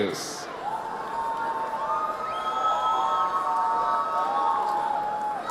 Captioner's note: audience cheers